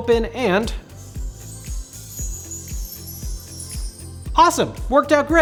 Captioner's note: magic sounds